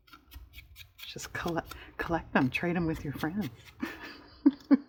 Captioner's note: laughs